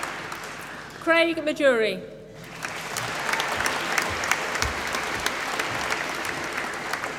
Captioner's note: applause